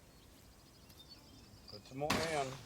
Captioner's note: birds chirping